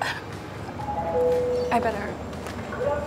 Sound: bell ringing

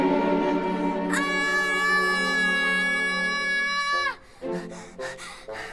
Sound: screams

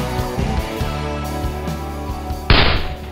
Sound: gunshot

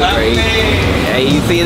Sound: passerby cheering

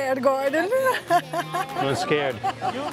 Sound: laughs

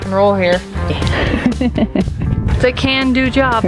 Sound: laughter

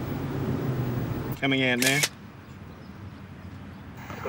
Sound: camera clicks

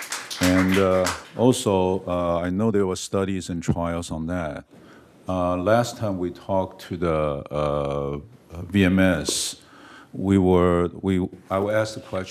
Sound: applause

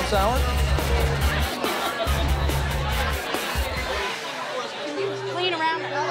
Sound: crowd chattering

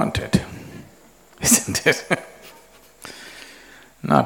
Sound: laughs

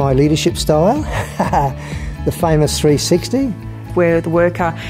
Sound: laughs

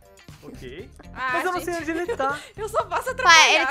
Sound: laughing

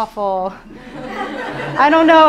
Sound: audience laughs

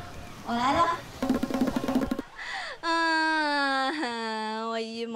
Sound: trotting

